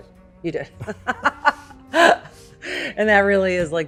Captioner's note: laughs